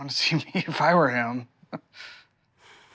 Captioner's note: laughs